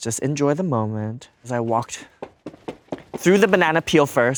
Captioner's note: footsteps thudding